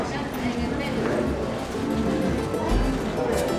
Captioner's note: street sounds